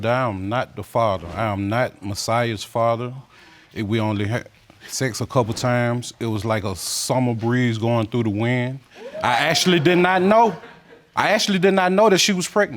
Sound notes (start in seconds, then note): 8.9 audience exclaiming